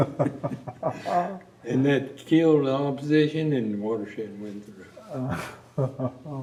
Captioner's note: laughter